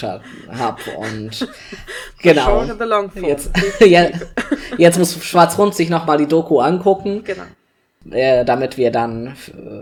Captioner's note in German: beide lachen